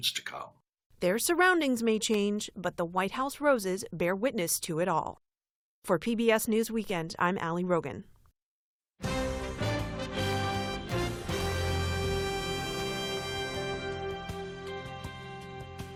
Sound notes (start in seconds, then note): 1.3 voice-over